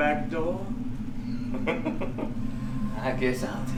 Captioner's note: evil giggle